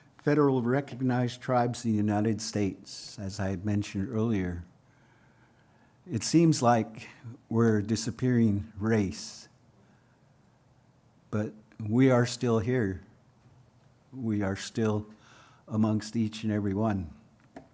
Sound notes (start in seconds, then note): none